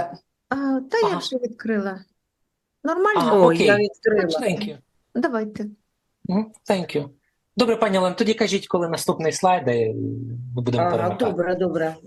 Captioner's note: foreign language